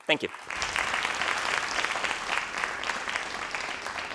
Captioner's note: crowd applauding